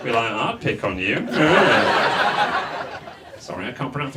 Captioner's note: audience laughs